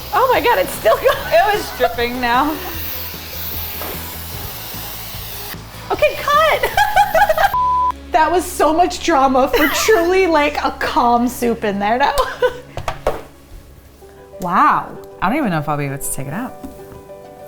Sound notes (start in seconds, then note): 4.8 pressure cooker whizzing; 6.1 laughs